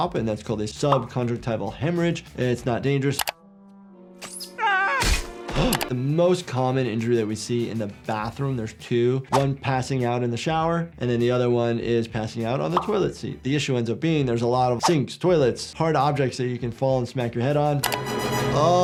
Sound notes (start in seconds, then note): 4.6 Peter yells; 5.5 gasps